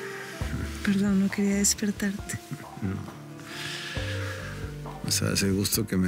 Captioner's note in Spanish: Él suspira